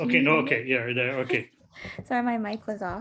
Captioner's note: chuckles